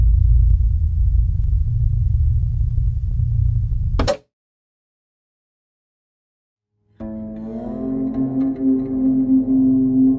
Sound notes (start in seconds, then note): 0.0 static hisses; 0.0 static hums; 4.0 TV pops; 7.0 solemn music